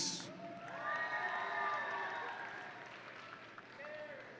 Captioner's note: audience cheering